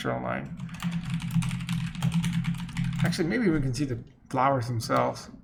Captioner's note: rapidly typing